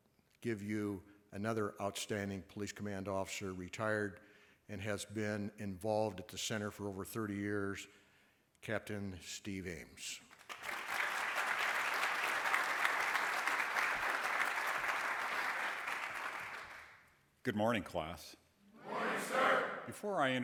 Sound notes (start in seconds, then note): 10.2 applause